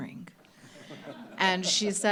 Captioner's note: laughter